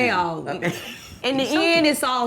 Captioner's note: Denise laughs